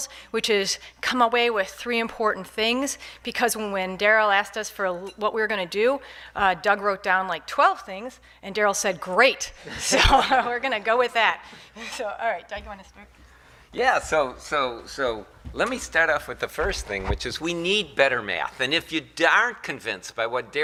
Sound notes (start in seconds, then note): 10.0 laughing